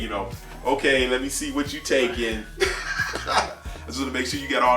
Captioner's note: laughs